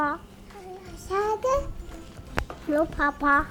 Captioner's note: toddler chattering